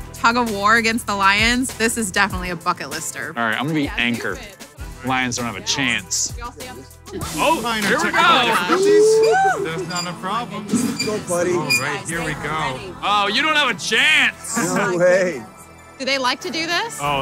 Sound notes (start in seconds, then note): 7.8 laughing